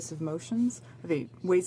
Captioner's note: speaking French